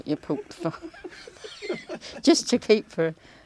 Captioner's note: laughter